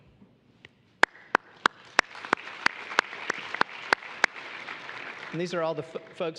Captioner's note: applause